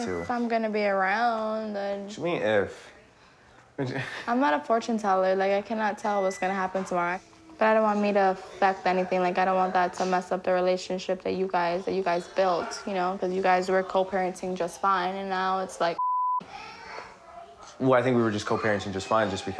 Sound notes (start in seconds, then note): 16.0 beep